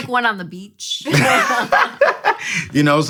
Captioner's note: laughter